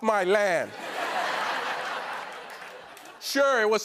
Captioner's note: laughter